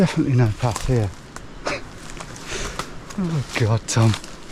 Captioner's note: scoffs